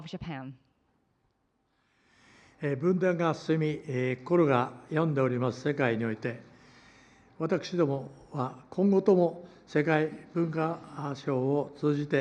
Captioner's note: foreign language